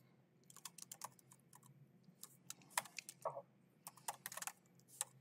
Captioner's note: keyboard clacking